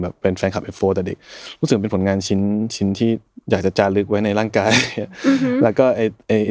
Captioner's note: laughs